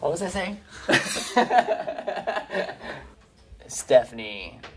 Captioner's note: laughing